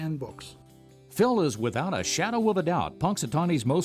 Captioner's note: voiceover